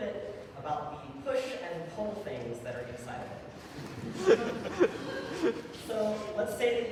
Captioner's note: audience laughter